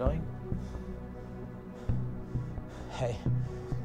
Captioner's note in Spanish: Respirando profundamente